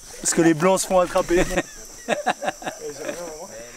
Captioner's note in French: rires